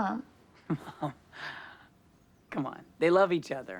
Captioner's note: laughs